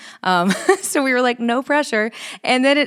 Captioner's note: chuckles